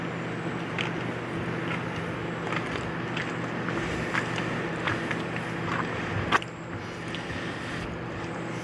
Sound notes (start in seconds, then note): 2.3 footsteps on crunching gravel